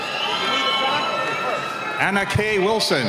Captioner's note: cheering